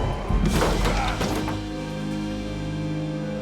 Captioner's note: crashing; dark music